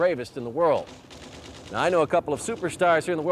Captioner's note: guns firing